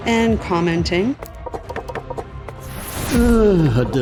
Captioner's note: wooden click, clack, click, clack